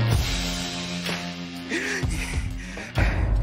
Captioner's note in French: heavy breathing